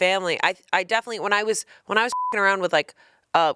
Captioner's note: beep